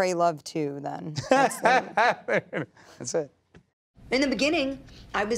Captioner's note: laughing